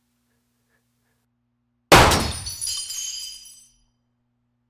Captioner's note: gun firing